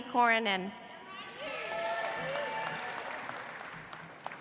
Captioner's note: audience applauds